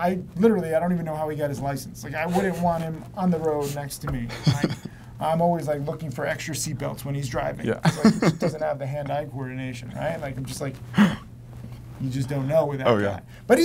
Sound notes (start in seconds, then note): 4.3 laughter; 7.8 laughter